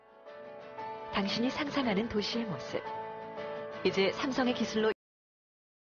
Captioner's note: speaking foreign language